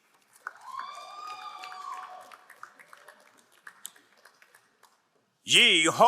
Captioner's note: crowd cheering and applauding